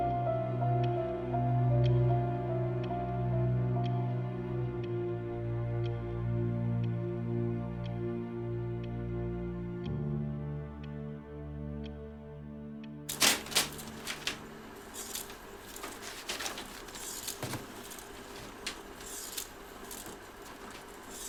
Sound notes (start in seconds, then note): 0.1 clock ticking continues; 0.1 gentle music continues; 8.9 clock ticking continues; 8.9 gentle music continues; 13.3 reels clicking; 14.8 paper ripping